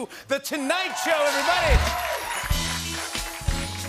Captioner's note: cheering and applause